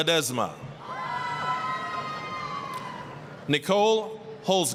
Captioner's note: applause, cheering